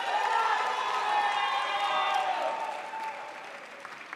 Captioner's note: crowd applauds